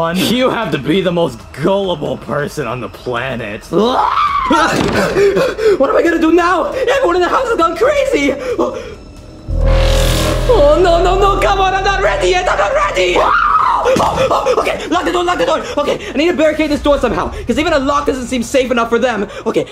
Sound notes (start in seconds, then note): 5.0 yelling, panting; 9.2 ominous music; 14.2 yelling